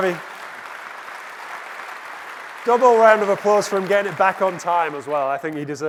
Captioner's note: applause